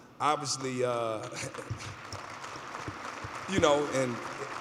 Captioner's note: applause